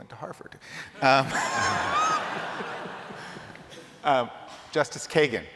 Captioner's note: laughter